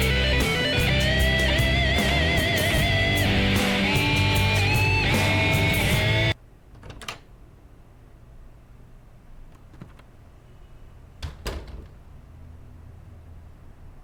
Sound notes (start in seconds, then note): 6.7 door opening; 11.2 door closing